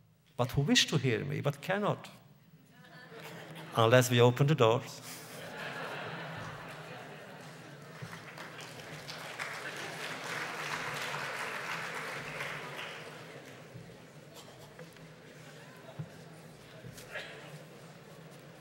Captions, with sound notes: but who wish to hear me, but cannot -- (laughter) unless we open the doors. (laughter) (applause)